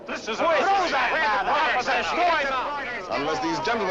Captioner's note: shouting criticisms